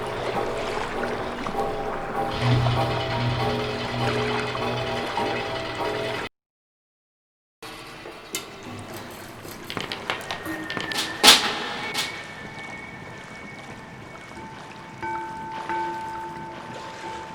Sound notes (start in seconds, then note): 10.4 whistle; 15.1 bell ringing